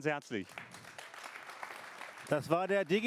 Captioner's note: applause